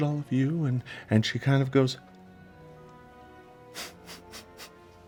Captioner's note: sniffs